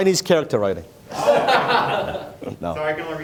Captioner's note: audience laughing